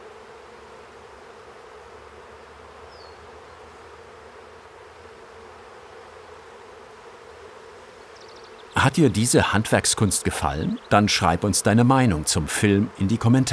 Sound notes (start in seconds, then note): 1.3 birds chirping